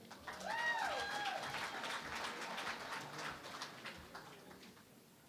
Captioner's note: cheering and Applause